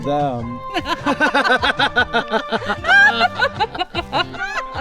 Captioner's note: both laughing; bright music